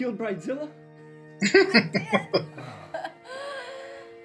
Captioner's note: chuckling